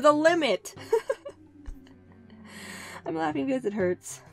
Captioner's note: laughter